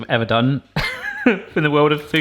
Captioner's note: laughs